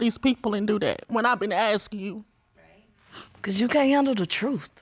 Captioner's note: sniffs